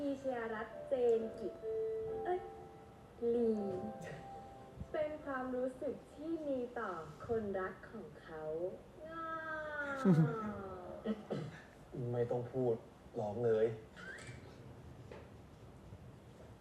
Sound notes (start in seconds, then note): 9.9 aww!